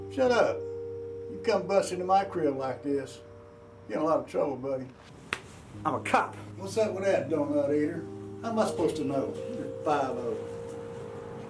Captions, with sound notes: Shut up! You come busting in my crib like this! You are in a lot of trouble buddy! [Slap] I'm a cop! What's up with that donut eater? How am I supposed to know you are Five O?